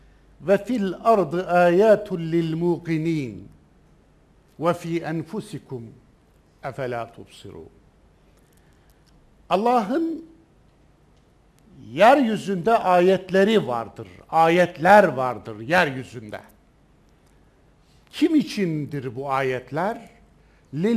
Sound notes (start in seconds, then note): 0.6 reading Zariyat 20 in Arabic